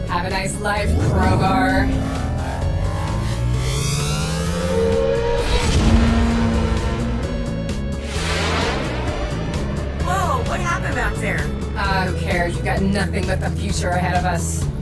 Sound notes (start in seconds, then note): 2.5 spacecraft buzzing; 5.6 explosion booming